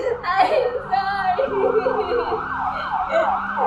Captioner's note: Eli sobbing